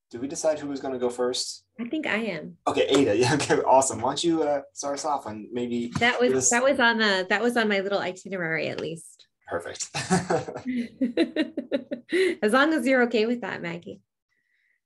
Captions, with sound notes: -Did we decide who was going to go first? -I think I am. Okay, Ada. Yeah, okay, awesome. Why don't you start us off and maybe- That was on -my little itinerary at least. -Perfect. [laughs] [laughs] As long as you're okay with that, Maggie.